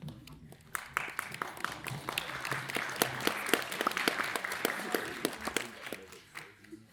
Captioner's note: applause